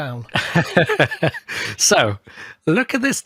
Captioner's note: laughing